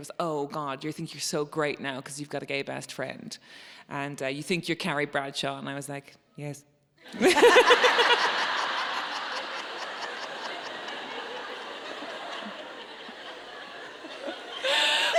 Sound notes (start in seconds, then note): 7.1 audience laughing; 10.4 both laughing